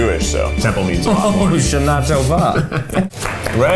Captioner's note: speaks foreign language; laughs